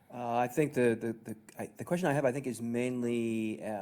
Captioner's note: voiceover